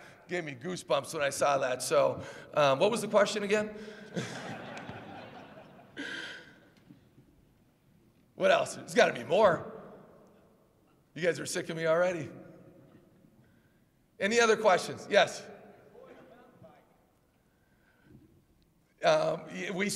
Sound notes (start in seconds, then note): 4.2 laughs